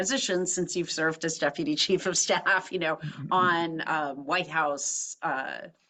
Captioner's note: laugh